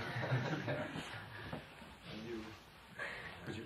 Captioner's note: laughter